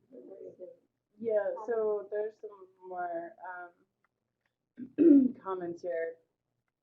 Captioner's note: voiceover